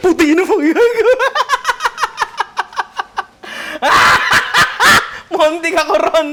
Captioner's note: laughs hysterically